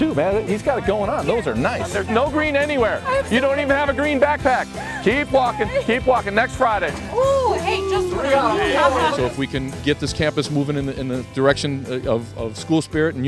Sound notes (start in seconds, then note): 8.7 laughter